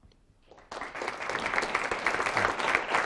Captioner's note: applause